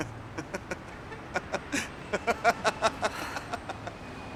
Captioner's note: chuckling; laughing